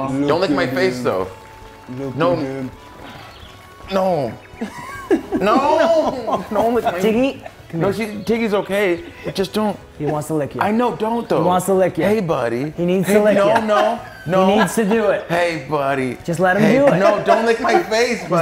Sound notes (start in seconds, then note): 4.2 laugh